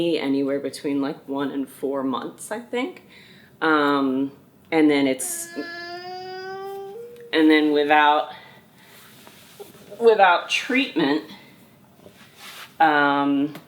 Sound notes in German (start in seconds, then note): 5.2 DJ weint